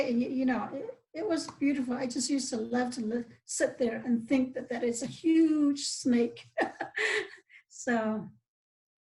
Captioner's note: laughs